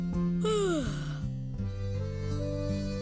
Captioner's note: yawn